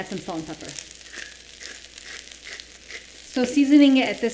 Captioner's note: grinding salt